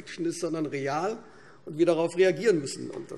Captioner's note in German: none